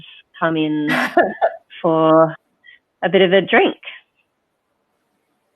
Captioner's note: chuckles